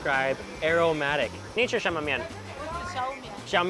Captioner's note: speaks in a foreign language